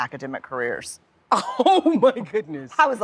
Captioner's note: laughs